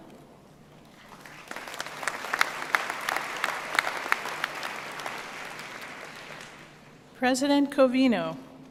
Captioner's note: applause